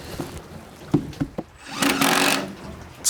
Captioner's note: knocking, rattling